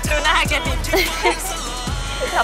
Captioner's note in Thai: เสียงหัวเราะ